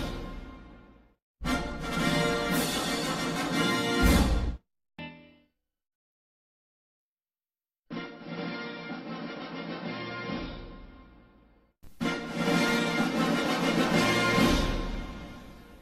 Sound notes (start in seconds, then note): 5.4 silence; 7.7 rousing fanfares resuming; 12.0 rousing fanfares continuing